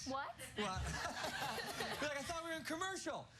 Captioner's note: laughter